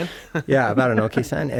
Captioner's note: laughing